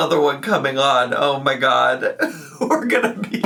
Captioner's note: laughs